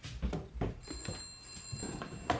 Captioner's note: phone rings